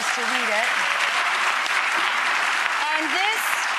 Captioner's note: clapping